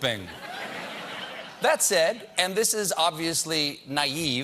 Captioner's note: laughter